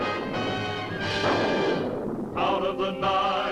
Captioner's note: thunderclap